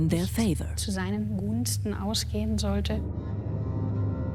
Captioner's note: speaks German